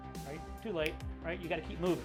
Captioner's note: snaps